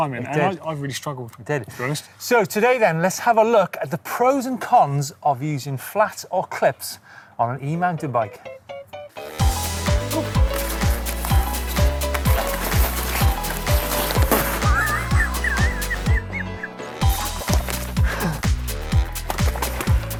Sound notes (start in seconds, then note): 9.2 upbeat music; 11.3 thudding; 14.6 laughter; 17.6 grunting